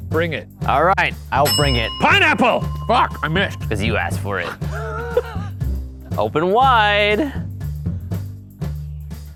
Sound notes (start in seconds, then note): 7.7 coughs